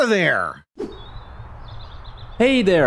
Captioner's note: outdoors ambience